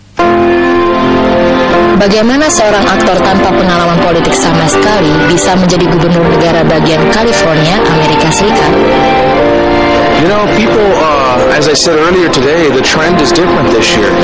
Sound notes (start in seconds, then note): 1.7 speaking indonesian